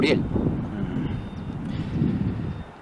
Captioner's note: wind gushing